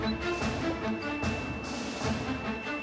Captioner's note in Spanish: Bip repetido